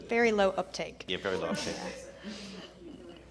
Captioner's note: chuckles